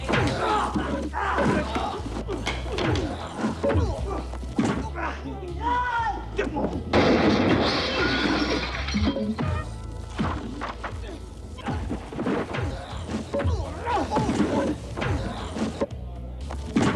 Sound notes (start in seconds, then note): 0.2 gentle upbeat music; 5.6 fighters moaning; 12.6 fighters moaning